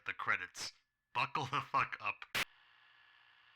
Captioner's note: krrrt